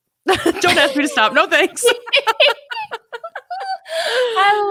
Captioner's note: laughs